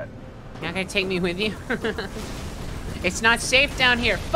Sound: nervous laughter

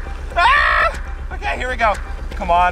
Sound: shrieks

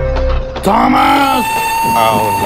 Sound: angry whistle

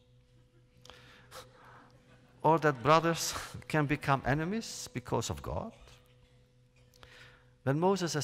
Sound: laughter

